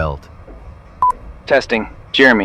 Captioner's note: SFX: radio